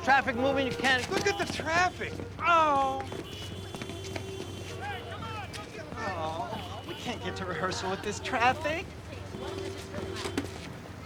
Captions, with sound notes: Look at the traffic! Oh! (horns honking, drivers shouting) Oh... We can't get to rehearsal with this traffic.